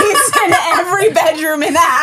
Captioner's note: laughing